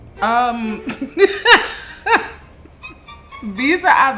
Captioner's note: laughs